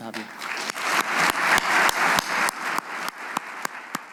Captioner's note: audience clapping